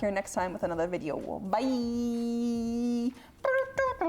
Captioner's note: hums song